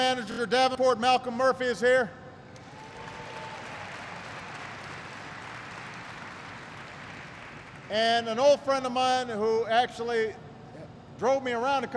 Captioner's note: applause